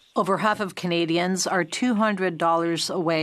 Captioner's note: speaking French